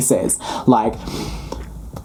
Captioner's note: exhaling